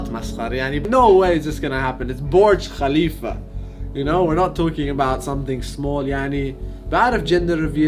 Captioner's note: speaks in English